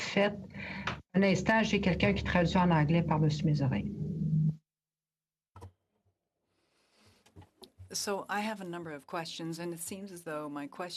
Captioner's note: speaking French